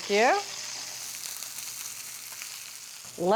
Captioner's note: meat sizzling